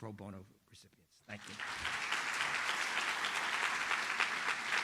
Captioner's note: audience applauds